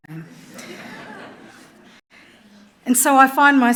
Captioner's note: audience laughing